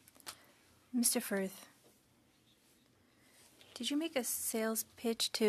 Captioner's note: speaking french